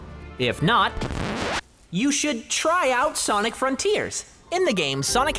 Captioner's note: record scratch